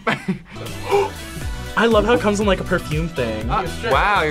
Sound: laughs; gasps

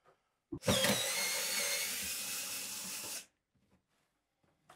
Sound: screwdriver whirring

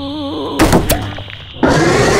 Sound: bang!; pop!

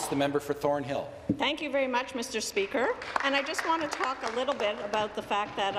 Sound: applause

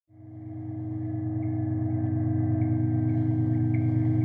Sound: droning machine noises

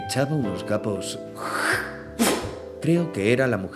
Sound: spits

